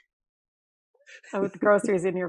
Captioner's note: laughing